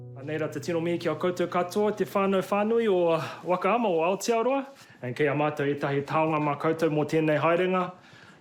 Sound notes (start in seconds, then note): 0.2 speaks te reo maori; 5.0 continues speaking te reo